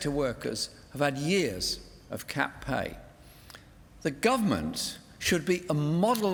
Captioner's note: none